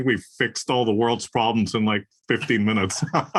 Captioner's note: laugh